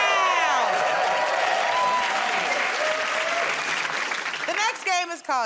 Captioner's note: cheers and applause